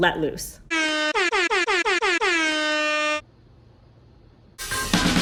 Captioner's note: air horns